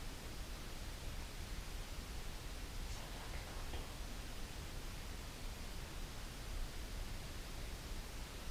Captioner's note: whispers